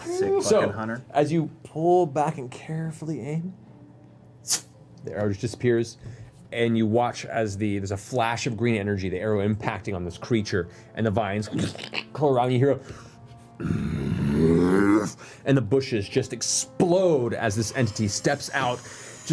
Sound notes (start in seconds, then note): 13.6 roar